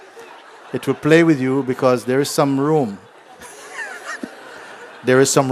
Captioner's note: laughter